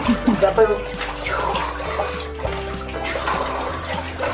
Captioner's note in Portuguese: barulho de água